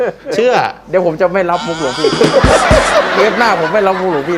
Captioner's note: laughing